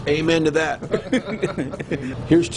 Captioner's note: laughing